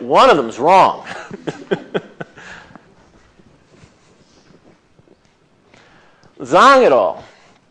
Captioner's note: laughs